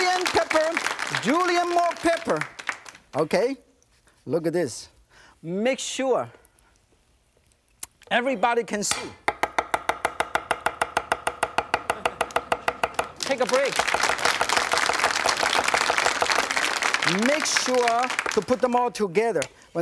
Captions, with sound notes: Julian pepper. Julian more pepper, okay? Look at this. Make sure everybody can see. (knife banging) (audience chuckling) Take a break. (audience applauding) Make sure to put them all together.